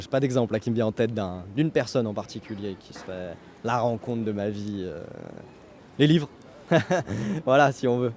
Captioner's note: laughs